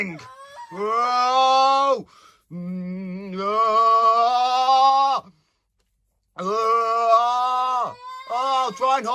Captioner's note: yells, mostly from Teddy